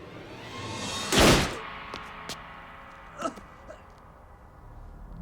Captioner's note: tense music; gunshot bangs; Pablo groans